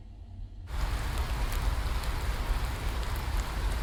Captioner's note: rain pattering